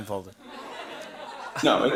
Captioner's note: laughter